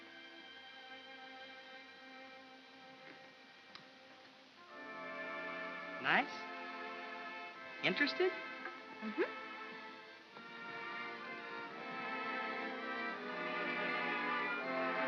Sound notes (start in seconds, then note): 3.7 kiss smooches lightly; 10.5 soft music